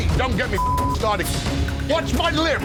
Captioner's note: beep